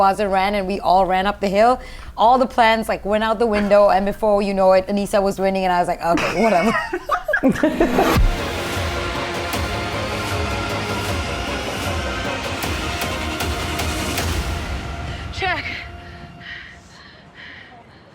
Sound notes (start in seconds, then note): 6.1 chuckles; 9.0 tense music